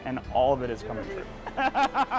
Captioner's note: laughter